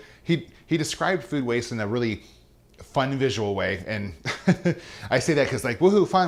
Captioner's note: laughs